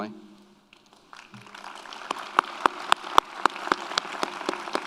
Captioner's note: audience applauds